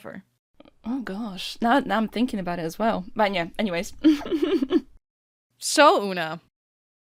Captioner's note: laughs